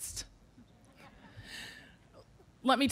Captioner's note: audience laughing